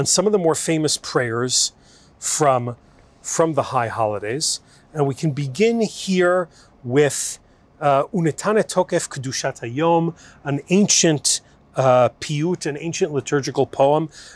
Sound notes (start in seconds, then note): 7.0 Hebrew